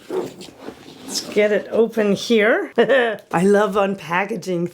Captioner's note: laughing